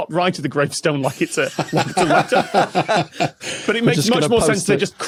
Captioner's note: laugh